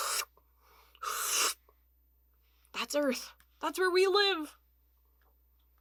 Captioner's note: sucking noise